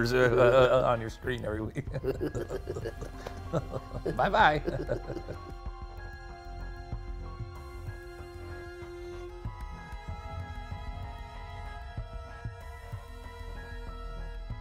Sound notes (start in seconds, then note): 1.7 both chuckle; 6.1 eerie music